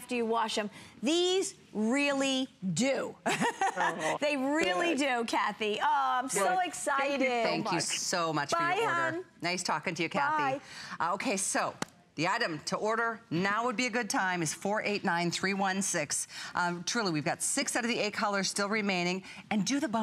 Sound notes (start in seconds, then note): 3.2 laughter